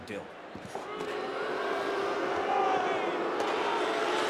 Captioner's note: crowd booing